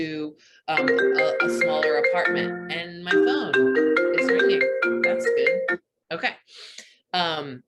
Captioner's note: phone ringing